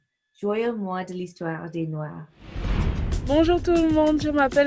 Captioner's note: whooshing